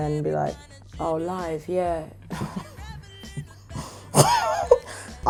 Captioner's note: laughs